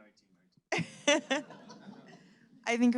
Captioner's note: laughing